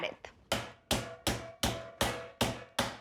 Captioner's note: pounds meat